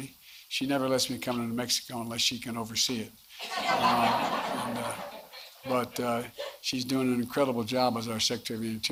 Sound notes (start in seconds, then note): 3.4 laughter